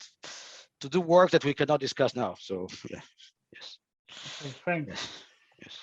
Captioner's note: chuckles